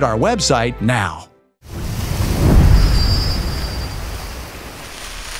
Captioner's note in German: Wellenrauschen